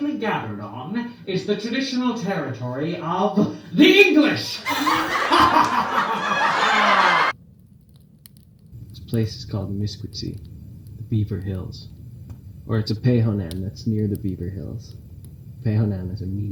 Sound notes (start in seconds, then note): 7.5 laughter